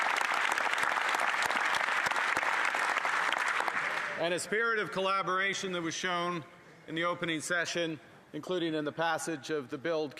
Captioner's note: some Applause